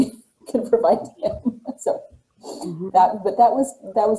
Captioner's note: laughter